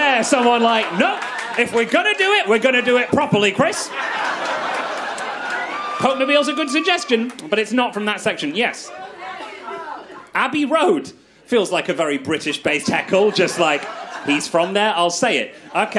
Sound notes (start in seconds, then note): 4.3 crowd laughs